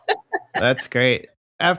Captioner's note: laughter